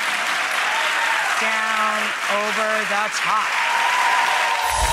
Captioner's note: audience applauding